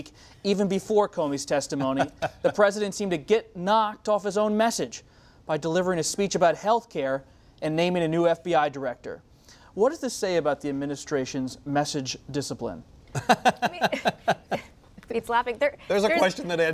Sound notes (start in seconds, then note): 13.1 laughter